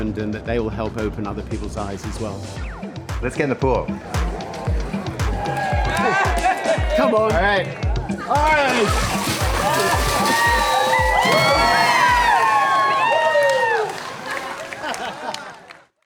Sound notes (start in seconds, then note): 5.7 crowd cheering; 11.1 crowd cheering